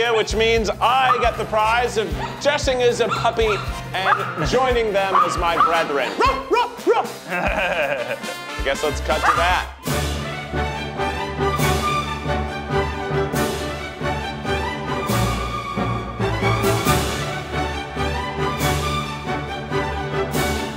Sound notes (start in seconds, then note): 4.9 barking; 10.2 upbeat music